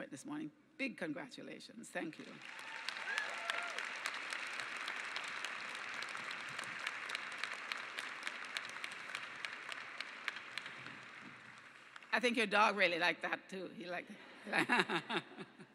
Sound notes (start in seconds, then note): 2.3 cheers and clapping; 14.4 laughter